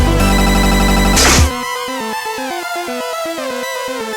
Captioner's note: static, music skips to end